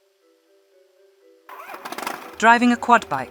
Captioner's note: engine starts ♫